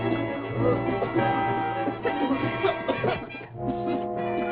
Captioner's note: coughing